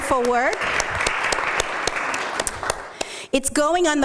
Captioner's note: applause